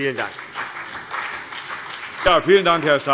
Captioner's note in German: Beifall CDU und BÜNDNIS 90/DIE GRÜNEN